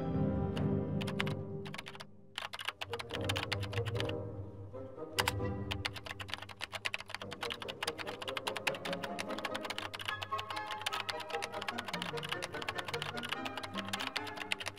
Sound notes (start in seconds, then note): 0.0 dramatic music; 3.8 typing on keyboard